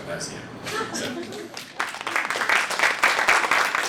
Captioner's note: applause